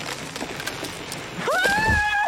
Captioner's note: cracking; shrieks